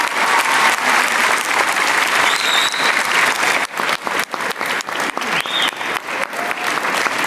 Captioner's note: applause